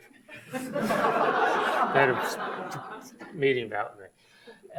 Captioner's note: audience laughs